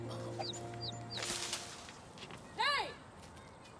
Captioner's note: branches rustling